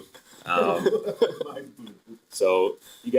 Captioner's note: laughing